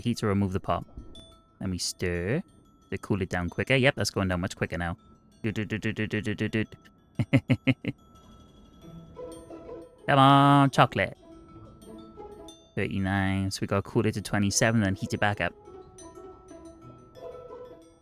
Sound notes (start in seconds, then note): 7.2 laughs